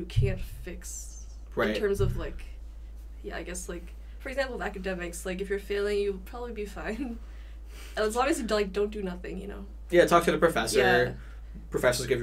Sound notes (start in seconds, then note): none